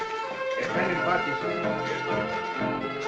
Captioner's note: in spanish